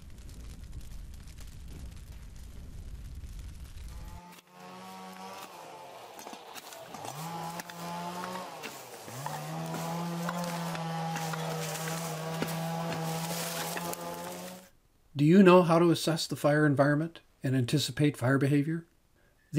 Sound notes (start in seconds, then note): 4.7 electric saw buzzing